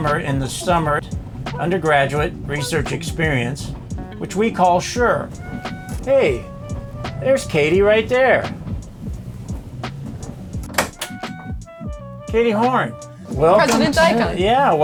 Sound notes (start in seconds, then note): 10.7 car door clicks